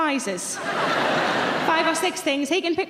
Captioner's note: audience laughing